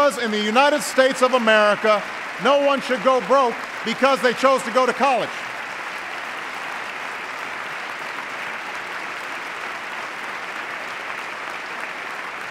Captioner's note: applause